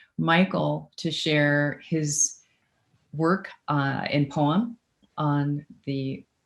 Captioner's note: speaks faintly